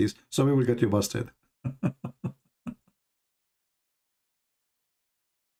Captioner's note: Ketawa